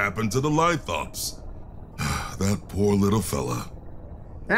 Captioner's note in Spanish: Suspiro